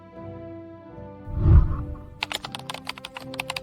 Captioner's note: whooshing sound; keyboard clicking